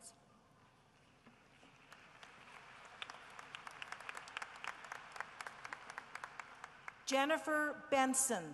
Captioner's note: applause